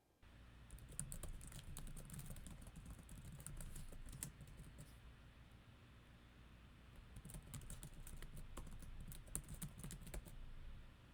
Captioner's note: keyboard typing